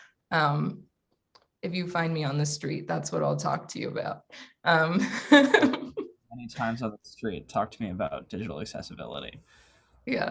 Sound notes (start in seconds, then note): 6.4 laughs